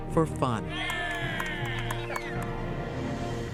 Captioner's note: cheers and laughter